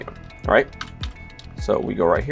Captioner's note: keys click